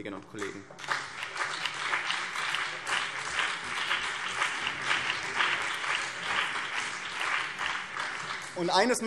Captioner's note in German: Beifall BÜNDNIS 90/DIE GRÜNEN und vereinzelt CDU